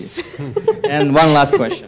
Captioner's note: laugh